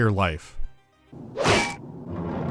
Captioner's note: dink